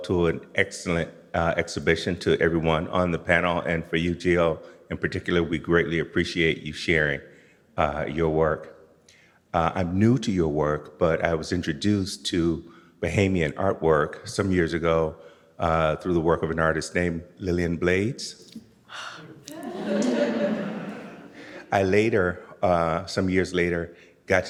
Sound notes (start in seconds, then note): 18.9 inhales sharply; 19.4 audience laughs